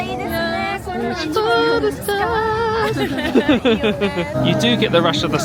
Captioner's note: laughing